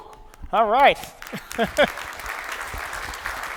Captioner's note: applause